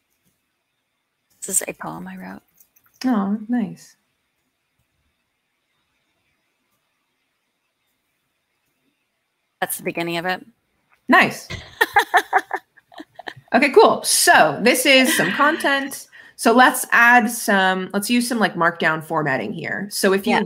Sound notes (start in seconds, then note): 12.7 laughs